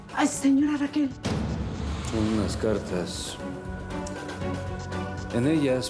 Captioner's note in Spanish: sonido al abrir la puerta